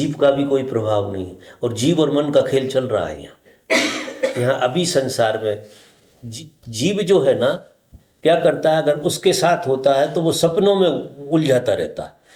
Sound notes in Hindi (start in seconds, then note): 3.7 खांसने की आवाज़; 3.7 गला साफ़ करने की आवाज़